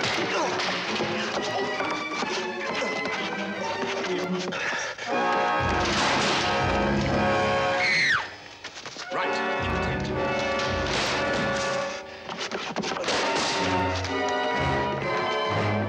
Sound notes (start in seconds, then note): 0.3 grunting; 5.6 table clatters; 7.7 Nicole screams; 12.2 wood clatters